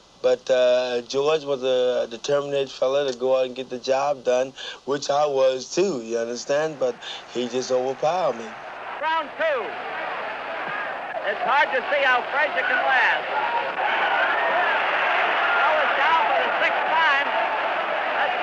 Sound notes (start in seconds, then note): 8.8 crowd cheering; 14.2 crowd exclaiming